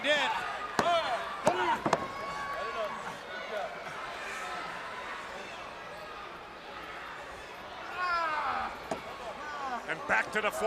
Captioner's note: crowd chatter